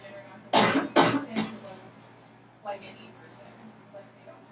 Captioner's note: coughing